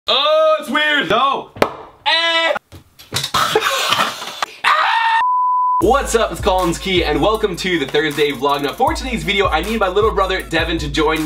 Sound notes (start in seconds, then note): 0.4 groans in disgust; 3.3 laughing; 4.5 screams